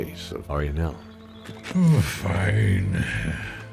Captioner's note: sigh